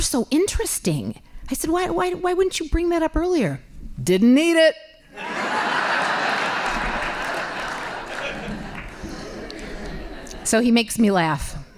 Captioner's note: laughing